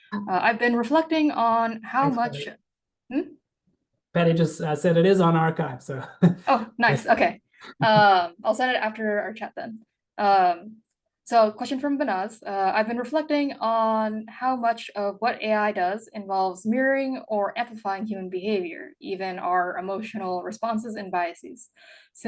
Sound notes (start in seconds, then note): 4.2 chuckles